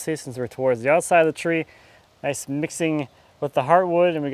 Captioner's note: none